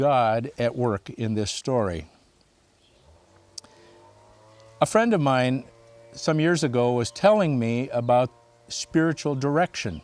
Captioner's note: birds chirping